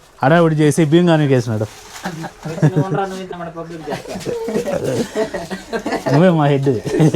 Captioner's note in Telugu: నవ్వు